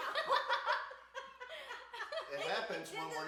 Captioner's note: group laughs